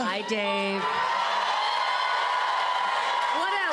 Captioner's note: cheers and applause